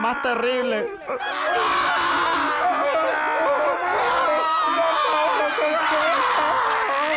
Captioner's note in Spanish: Gente gritando